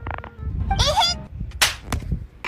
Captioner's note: smack